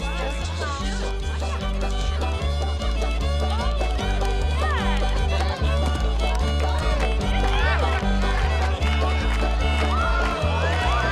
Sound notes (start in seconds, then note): 0.2 lively folk music rises; 7.1 spectators cheering